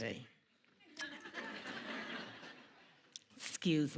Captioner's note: audience laughing